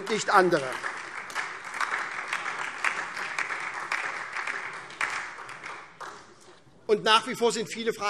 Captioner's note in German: Beifall SPD und DIE LINKE